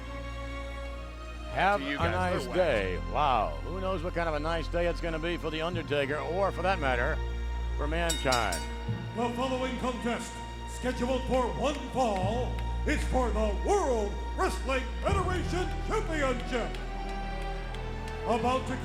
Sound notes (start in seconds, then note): 8.1 bell ringing